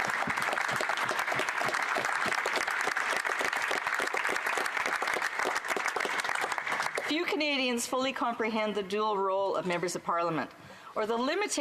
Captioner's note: applause